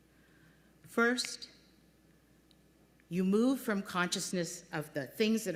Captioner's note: finger snap